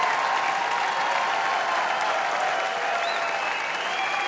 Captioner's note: audience applauding, cheering